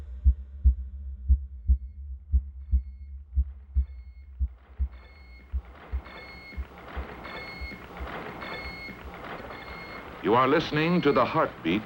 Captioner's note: soundbite of archived recording